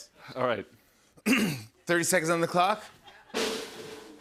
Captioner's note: clears throat; drumroll